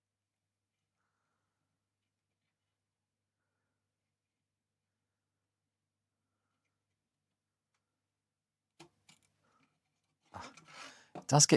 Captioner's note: silence